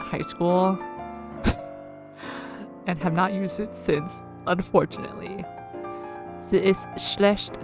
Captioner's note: huffs